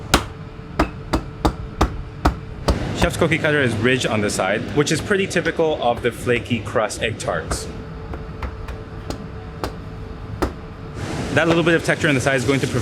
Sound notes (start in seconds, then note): 0.8 cookie cutter thuds; 7.2 hand thuds; 9.1 cookie cutter thuds